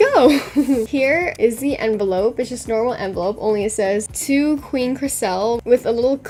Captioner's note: laughs